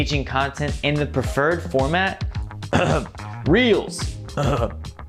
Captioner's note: coughs